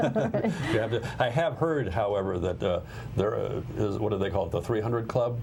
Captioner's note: laughter